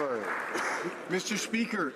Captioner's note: some Applause